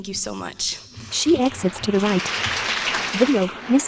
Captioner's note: applause